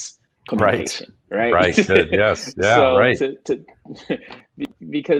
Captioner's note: laughs